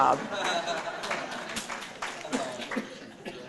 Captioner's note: laughter